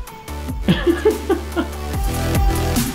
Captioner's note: laughing